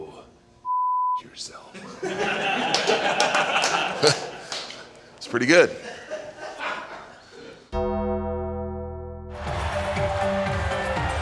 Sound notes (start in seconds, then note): 0.7 beep; 1.7 people laughing; 7.8 dramatic music